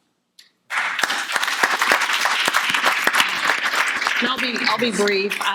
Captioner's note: audience applauding